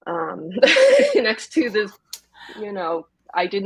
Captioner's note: laughs